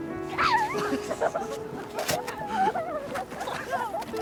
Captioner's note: all laugh